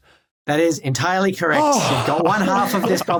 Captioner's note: heavy sigh